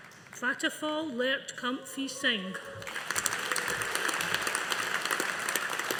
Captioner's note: audience applauding